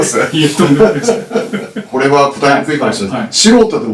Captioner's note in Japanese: 笑い